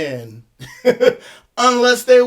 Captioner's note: chuckles